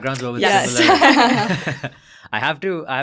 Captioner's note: laughing; both laughing